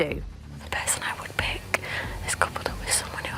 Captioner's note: whispers